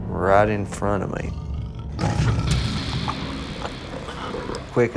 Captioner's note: growling